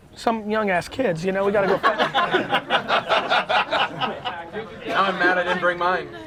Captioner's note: crowd laughs